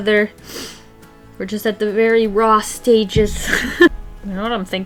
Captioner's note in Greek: Γέλια